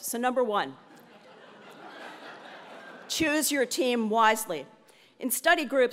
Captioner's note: laugh